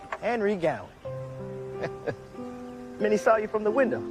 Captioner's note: chuckles